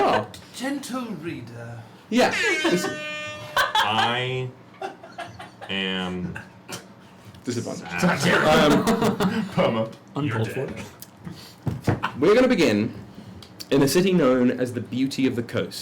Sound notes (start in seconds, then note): 0.0 laughs; 2.2 laughing; 2.4 airhorn plays from Jon’s phone; 7.3 laughs